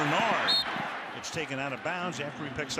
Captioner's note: whistle blows